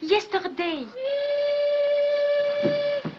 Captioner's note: train whistle blows